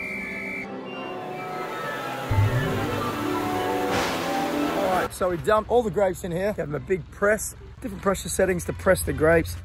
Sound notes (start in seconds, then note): 3.8 thunder sound